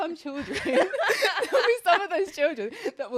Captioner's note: laughs